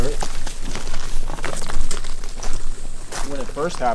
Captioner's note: footsteps pattering